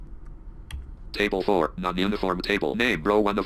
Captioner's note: screen reader narrating